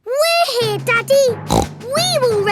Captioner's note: snorts